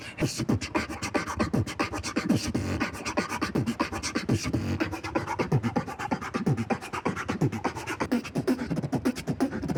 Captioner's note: beat boxing